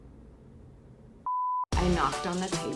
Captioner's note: beep